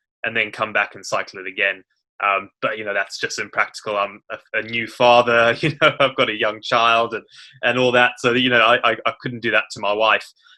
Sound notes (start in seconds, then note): 5.3 laughs